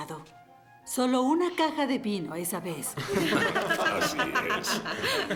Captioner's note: laughing